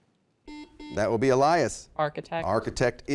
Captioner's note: beeping